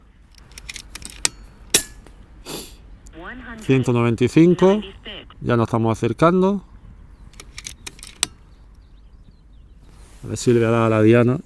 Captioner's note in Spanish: resoplido